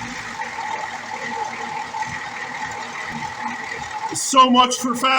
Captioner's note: fast idle; fast idle drops